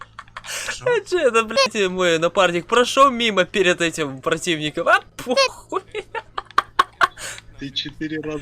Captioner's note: laughs